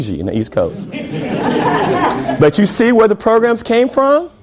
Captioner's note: laughter